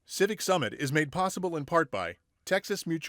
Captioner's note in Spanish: Voz en off